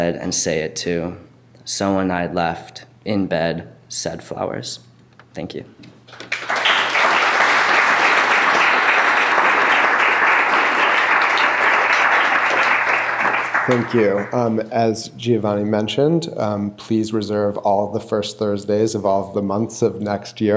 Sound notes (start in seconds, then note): 6.1 clapping